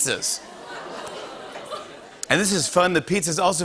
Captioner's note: audience groans